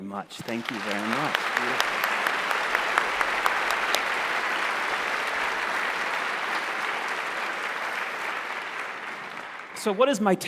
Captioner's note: applause